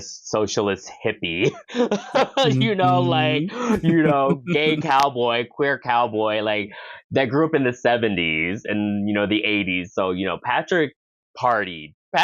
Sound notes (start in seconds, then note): 1.3 laughs